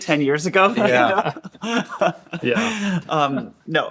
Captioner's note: laughing